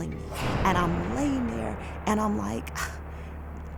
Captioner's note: scoffs